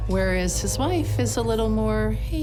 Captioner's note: people chatting